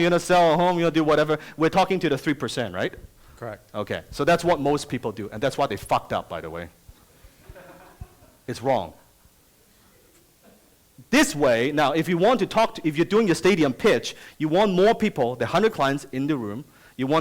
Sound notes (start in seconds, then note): 7.4 audience laughs